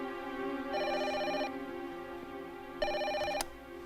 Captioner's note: phone rings